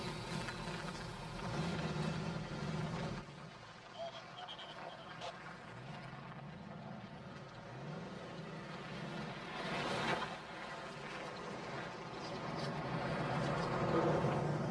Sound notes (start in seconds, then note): 3.9 radio Chatter Continues